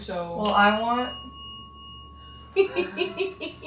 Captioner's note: bell dings; investigators chuckle